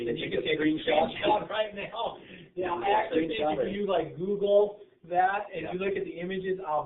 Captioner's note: laughter